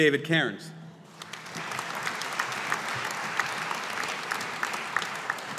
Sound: audience applauding

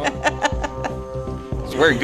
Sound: laughing

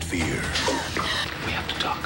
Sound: she gasps in fright

